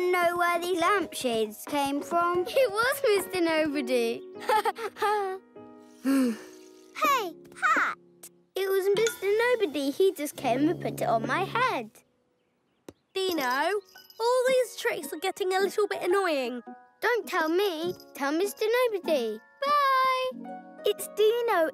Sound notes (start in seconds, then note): 4.4 laughs; 6.0 sighs